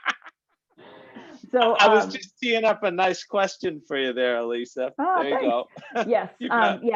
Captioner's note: laughter